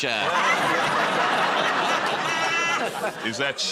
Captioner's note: laughter